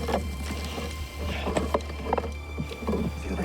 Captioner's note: man breathes heavily